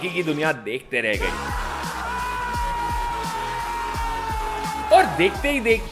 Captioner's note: cheers